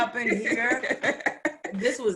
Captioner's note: laughs